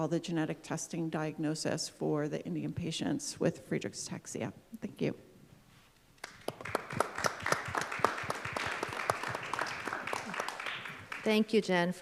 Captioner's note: applause